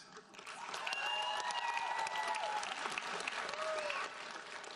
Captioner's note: audience applauds